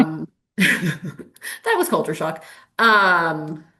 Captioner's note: chuckles